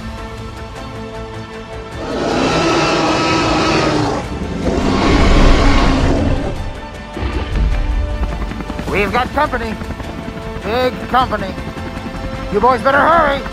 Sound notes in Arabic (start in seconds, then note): 1.9 تي ريكس هدير بصوت عالٍ